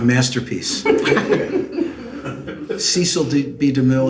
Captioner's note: laughs